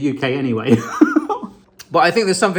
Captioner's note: laughing